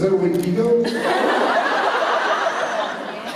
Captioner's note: laughter